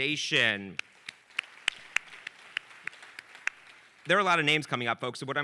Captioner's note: audience applauding